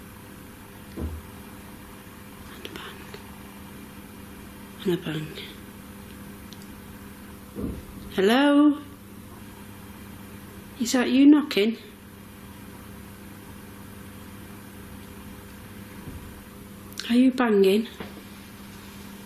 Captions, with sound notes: (thud) And a bang. And a bang. Hello? Is that you knocking? Are you banging?